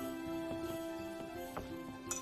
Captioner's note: tinkles bell